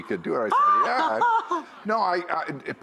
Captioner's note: laughs